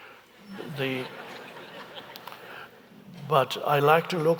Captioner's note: audience laughing